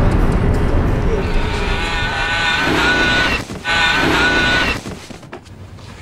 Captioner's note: intense music; screaming grows louder